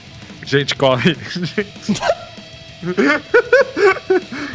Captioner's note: laughter